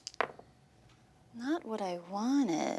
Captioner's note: dice clatter